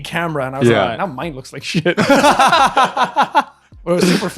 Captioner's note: laughing